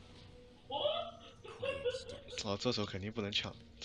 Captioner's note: giggling